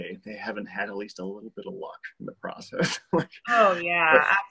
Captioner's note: laughs